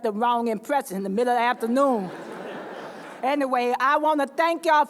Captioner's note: laughter